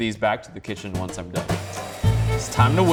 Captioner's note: mixers whirring